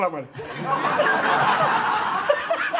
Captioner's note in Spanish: Risas